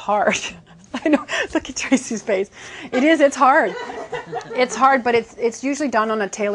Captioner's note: laughing